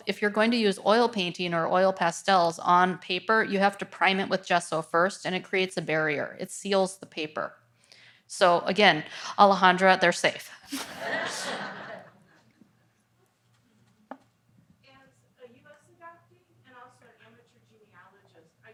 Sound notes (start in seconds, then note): 10.7 audience laughs